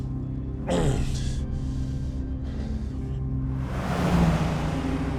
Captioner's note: groans